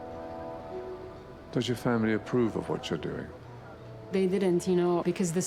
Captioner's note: voiceover